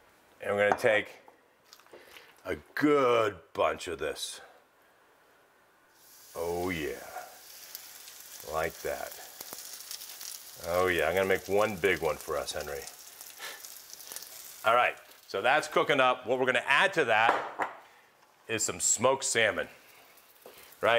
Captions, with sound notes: And we're gonna take a good bunch of this. Oh, yeah, like that. (sizzling) Oh yeah, I'm gonna make one big one for us, Henry. All right, so that's cooking up. What we're gonna add to that is some smoked salmon, right?